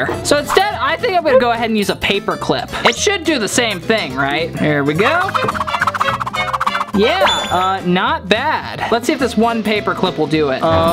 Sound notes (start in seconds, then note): 5.0 whipping sound